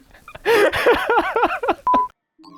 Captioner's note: laughing